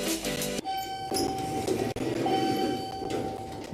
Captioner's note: elevator dinging; elevator music